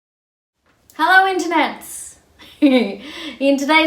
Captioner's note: giggles